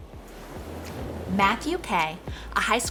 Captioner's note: gentle upbeat music; air whooshing